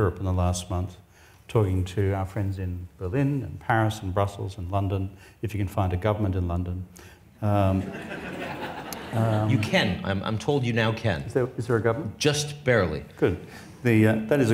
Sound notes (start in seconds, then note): 7.7 audience laughs